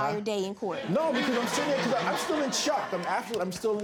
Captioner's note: audience laughs